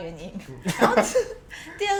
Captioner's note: laugh